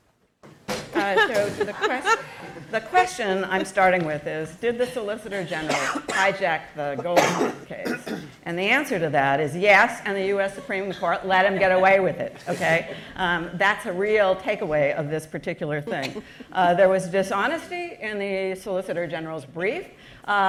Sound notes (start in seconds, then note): 0.3 bang; 1.0 laughs; 16.0 chuckle